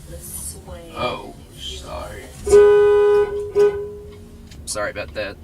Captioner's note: horn Honking